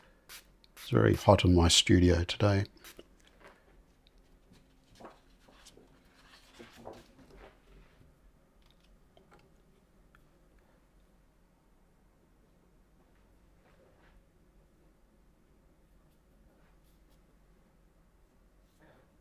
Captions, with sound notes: It's very hot in my studio today. [silence]